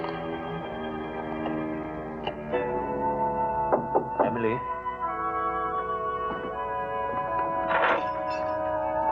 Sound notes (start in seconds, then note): 1.7 knock